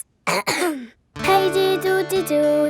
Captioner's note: clears throat